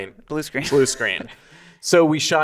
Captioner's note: laughing